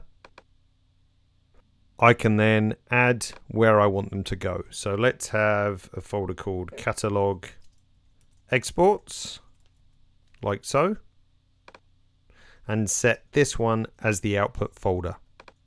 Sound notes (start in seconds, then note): 0.2 mouse click; 11.6 mouse click